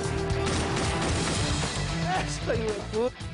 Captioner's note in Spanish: Disparos